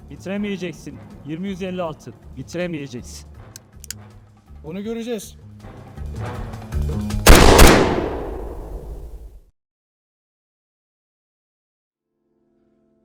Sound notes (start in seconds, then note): 7.2 gunshots